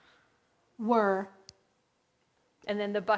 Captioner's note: electronic Voice